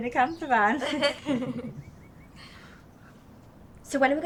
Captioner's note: group laughing